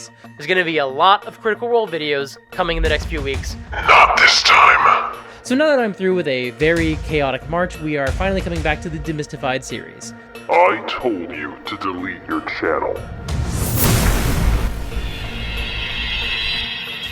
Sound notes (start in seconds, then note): 14.0 zap!